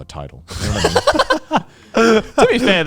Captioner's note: everyone laughs